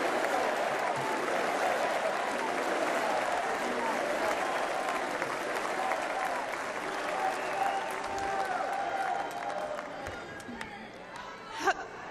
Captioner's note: chanting "usa"